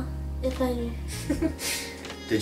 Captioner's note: laughter